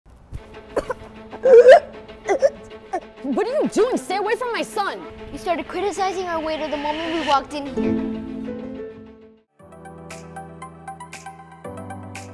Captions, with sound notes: (suspenseful music) (Child choking) - What are you doing? Stay away from my son. - You started criticizing our waiter, the moment we walked in here. (upbeat happy music)